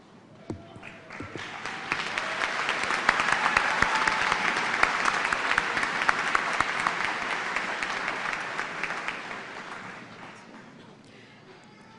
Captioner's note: cheers and applause